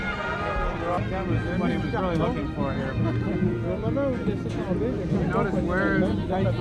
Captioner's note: indistinct chatter